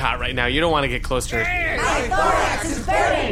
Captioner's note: groans; THE GROWER MIND growls